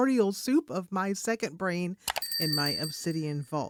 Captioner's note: bell ringing